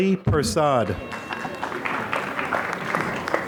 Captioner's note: applause